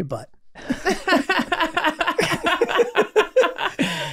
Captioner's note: group laughing